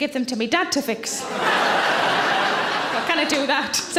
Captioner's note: audience laughs